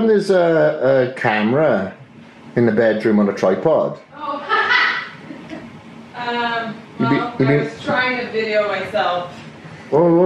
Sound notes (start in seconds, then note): 4.2 girlfriend laughs